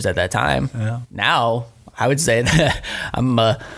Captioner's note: laughing